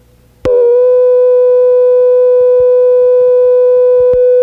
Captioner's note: electronic beeping